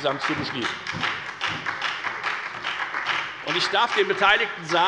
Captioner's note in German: Beifall bei der FDP und bei Abgeordneten der SPD